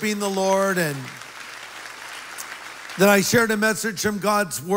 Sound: applause

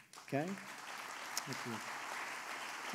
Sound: applause

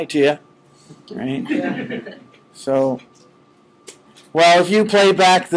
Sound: students laughing

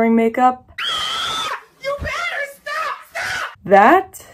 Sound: scream

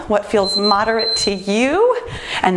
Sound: timer beeps

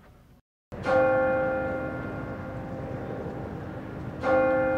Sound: bell ringing

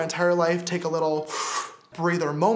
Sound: exaggerated inhale

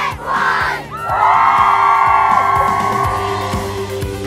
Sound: cheers

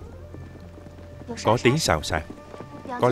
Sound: I heard rustling

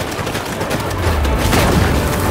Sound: distant explosion

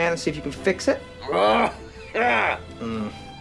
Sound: grunts

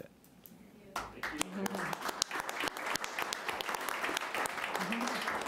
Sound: audience applauding

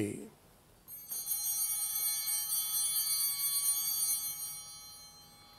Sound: bell ringing

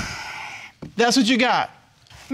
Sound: sighs

